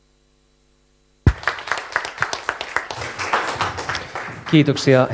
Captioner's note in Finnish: Aplodeja